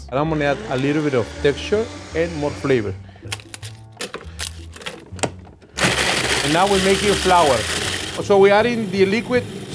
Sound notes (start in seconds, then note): 3.3 tortillas crunching; 5.9 processor whirring